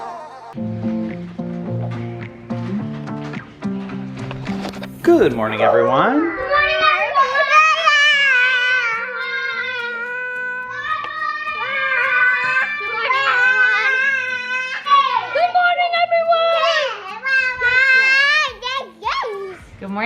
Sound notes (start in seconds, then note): 8.0 kids collectively shouting; 17.1 excitement screams